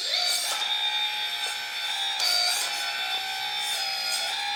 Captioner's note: motor whirs